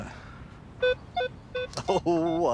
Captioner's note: beeping